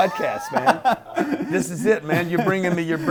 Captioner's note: laughing